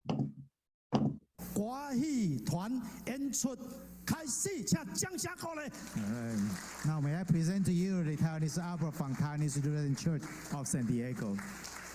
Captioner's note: speaking